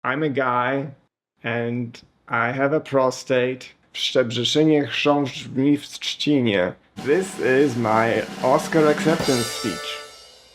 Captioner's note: speaking in Polish